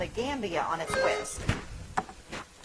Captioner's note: bell ringing